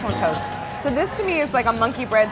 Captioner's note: bell dinging